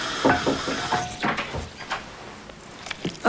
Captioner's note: knocking on door